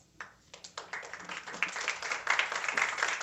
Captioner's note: applause